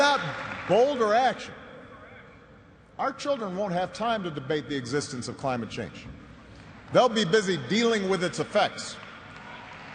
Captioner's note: cheers and applause